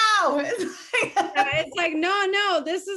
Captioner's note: laughing